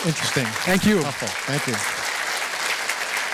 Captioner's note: applause